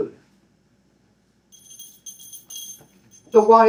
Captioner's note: ringing bell